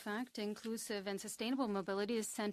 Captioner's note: speaking French